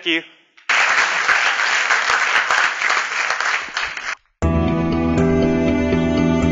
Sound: applause

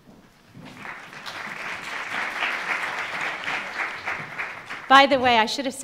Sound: audience applauding

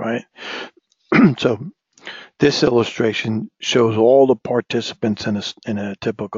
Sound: cough

